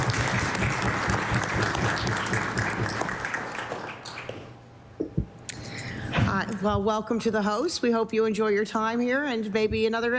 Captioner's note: applause